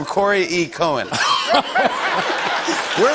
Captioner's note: laughter